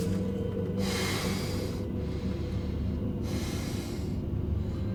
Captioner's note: Cole panting